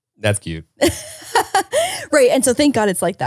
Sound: laughs

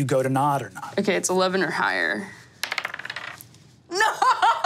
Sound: dice tapping table

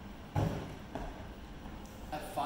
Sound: gentle thud

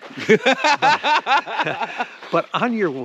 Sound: Ron laughing

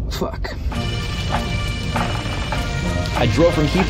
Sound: drizzling sound

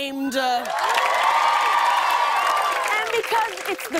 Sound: cheers and applause

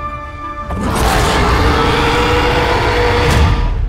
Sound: dragon roars

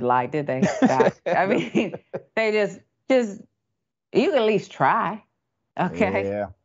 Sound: laugh

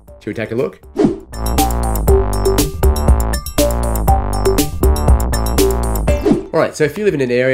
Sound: upbeat music; screen whooshing

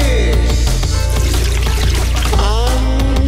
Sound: pissing sounds

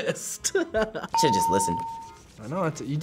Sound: laughs; bell rings

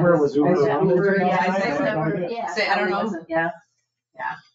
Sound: people chattering

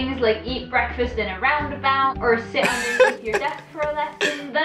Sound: laughs

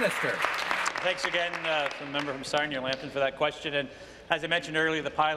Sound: applause

